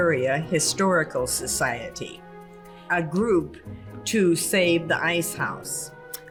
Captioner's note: sound of lightbulb going off